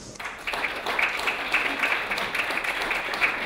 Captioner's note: clapping